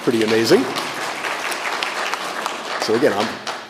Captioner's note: audience applauds